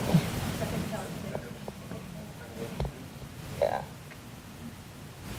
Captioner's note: audience mumbling